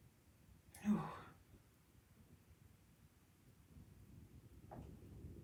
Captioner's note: loudly exhales